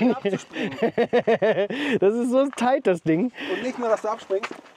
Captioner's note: laughter